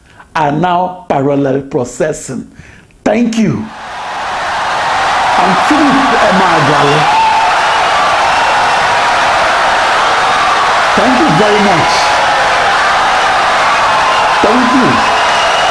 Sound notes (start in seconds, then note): 3.7 wild applause and cheering for 17 seconds